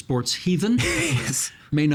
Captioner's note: laughing